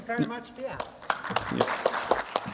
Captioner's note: applause